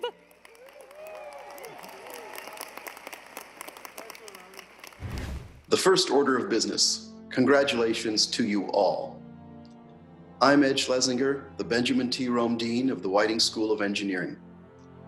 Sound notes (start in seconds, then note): 0.0 audience applauding; 5.0 air whooshing